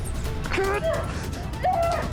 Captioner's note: percussive music; Jeremy shouts